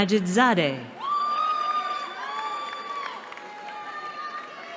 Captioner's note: cheering